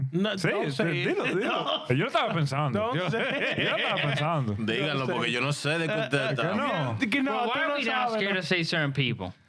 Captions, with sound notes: Not saying. (Speaking In Spanish) You're not a panzando. (Laughing) You're not a panzando. (Speaking In Spanish) Why are we all scared to say certain people?